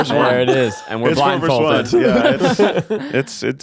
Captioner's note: all laughing